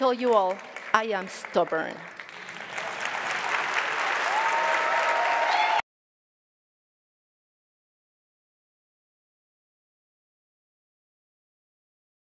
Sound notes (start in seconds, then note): 0.0 audience claps